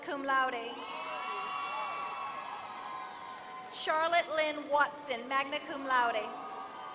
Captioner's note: applause; applause